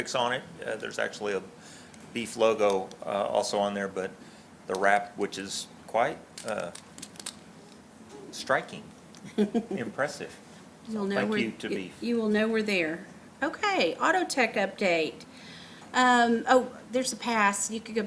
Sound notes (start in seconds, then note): 9.3 laughs